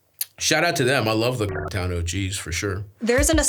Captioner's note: beeps